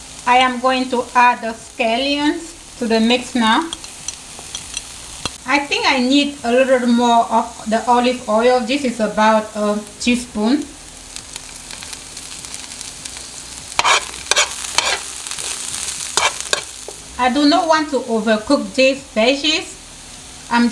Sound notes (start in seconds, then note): 11.3 pan continues sizzling; 13.6 spoon scraping